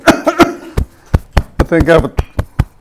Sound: coughing

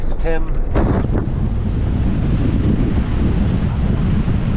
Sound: vehicle humming

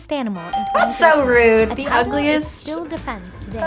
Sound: bell rings

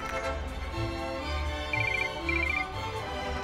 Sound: phone rings

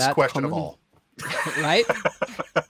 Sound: guy laughs

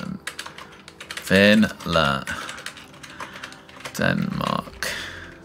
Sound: sighs

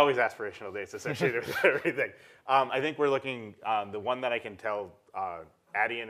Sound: laugh

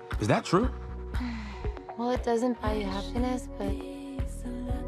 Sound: sighs

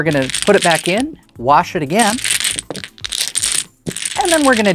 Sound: dominoes clattering

